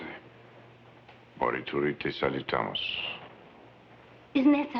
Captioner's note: speaking in foreign language